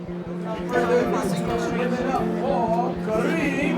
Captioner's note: crowd indistinctly chatting